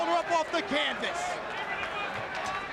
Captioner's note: applause